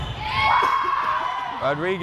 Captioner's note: crowd cheering